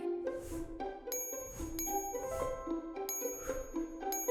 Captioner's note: bell chimes